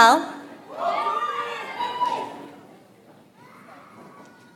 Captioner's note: audience applauds